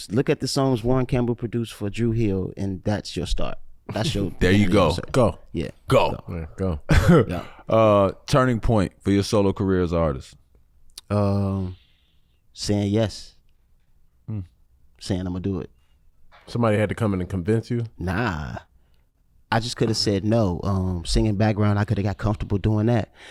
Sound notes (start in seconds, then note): 7.0 laughs